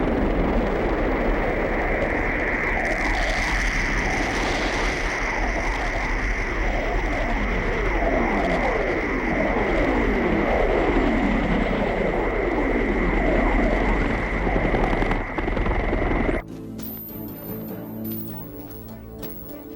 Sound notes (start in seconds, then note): 1.7 helicopter whooshing; 16.4 menacing music